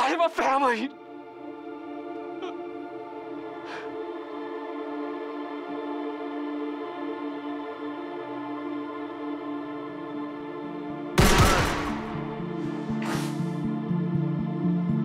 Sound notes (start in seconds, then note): 0.9 tense music; 11.2 gun shoots